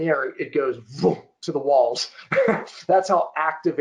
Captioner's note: chuckling